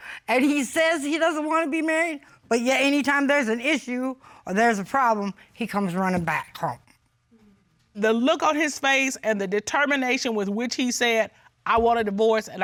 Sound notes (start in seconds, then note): none